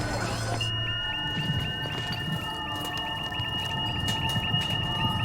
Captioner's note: devices beeping